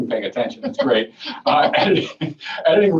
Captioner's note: laughing